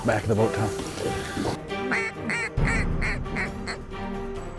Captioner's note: duck calls